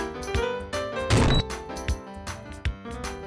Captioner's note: table smash and beep